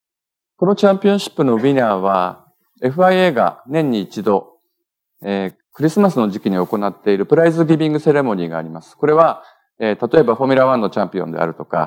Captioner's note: speaking japanese